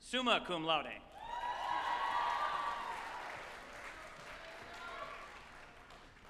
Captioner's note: group applauding and cheering